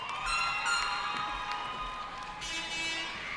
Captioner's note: cheering